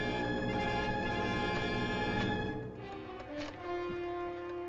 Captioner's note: foghorn Blows; dialing Phone